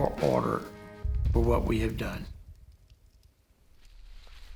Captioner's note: foliage crunching